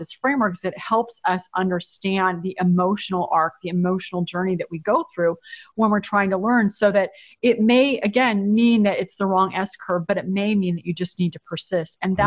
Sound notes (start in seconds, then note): none